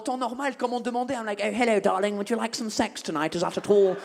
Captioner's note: posh British accent